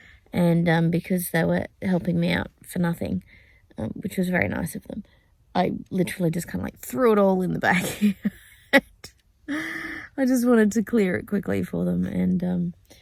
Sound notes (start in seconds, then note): 7.8 laughing